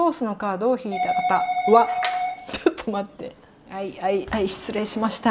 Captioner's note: beep~~